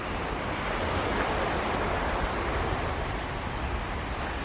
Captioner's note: waves surge